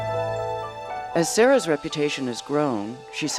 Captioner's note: voiceover